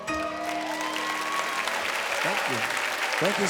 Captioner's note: audience applauds